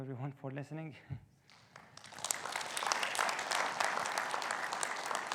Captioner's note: audience applauding